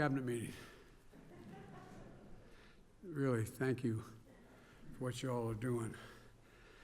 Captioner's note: laughter